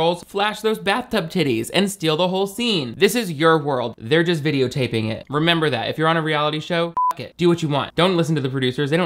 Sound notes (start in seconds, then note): 6.9 beep